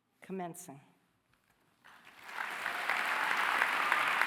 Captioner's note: applause